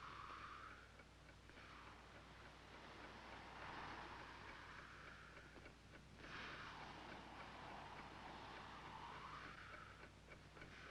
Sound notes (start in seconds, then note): none